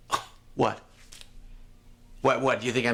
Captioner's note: scoffing